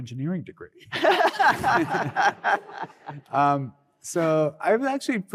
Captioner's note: laughter